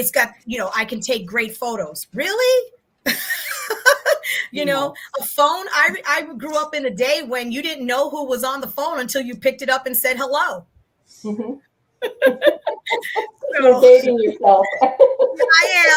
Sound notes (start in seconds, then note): 3.1 laughs; 12.0 laughter; 15.2 chuckles